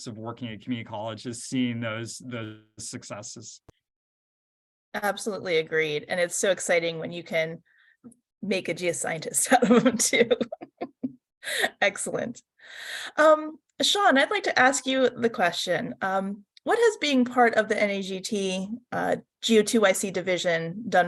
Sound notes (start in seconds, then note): 10.0 laughs